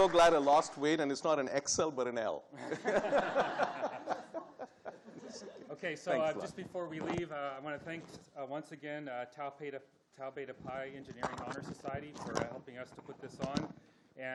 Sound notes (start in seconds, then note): 2.6 audience laughing